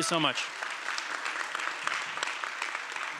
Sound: applause

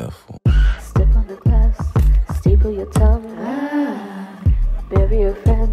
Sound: ahh

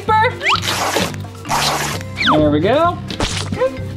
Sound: paper tearing

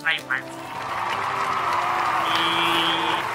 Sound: crowd applauding

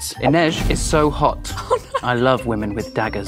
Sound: Amita laughs

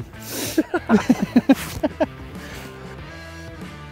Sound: both laugh

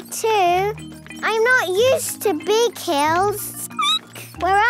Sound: squeaking

